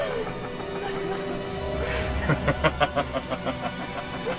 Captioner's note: evil Laughing